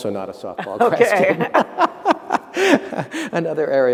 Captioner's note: laughter